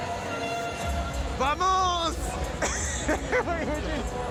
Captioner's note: in foreign language